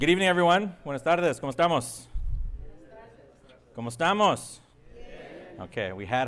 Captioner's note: speaking foreign language